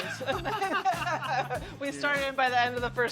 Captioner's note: laughing